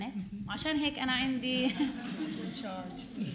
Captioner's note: speaking arabic